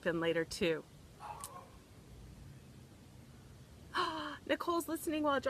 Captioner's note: bird cawing; gasps